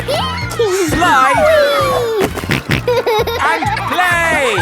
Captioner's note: giggles; snorting